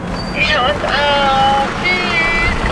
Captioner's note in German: über Funk